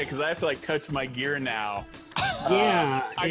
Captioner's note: chuckling